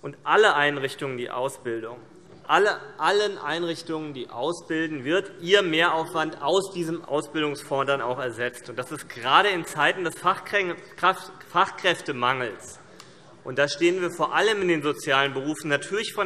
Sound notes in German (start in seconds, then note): none